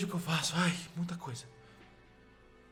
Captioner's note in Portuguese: suspira